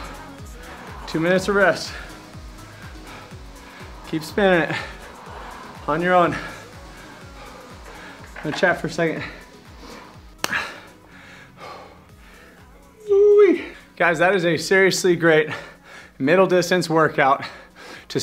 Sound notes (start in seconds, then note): 13.0 exclaims